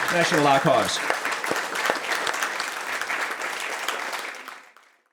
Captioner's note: audience clapping